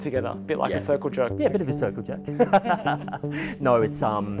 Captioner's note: laughter